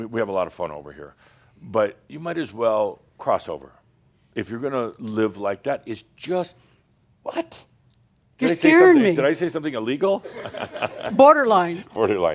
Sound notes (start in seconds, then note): 8.4 scoffs; 12.1 some chuckles